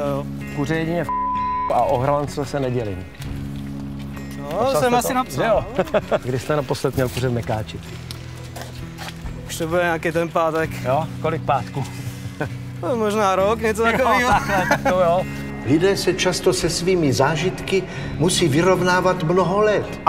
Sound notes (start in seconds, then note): 5.6 laughs